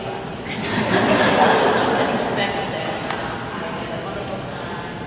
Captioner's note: audience laughs